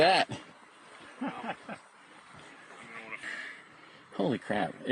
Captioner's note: colleague laughs